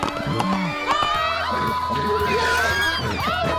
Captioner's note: horse whinnies